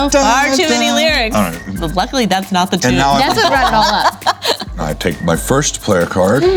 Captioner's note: laughing